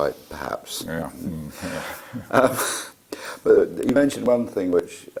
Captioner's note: laugh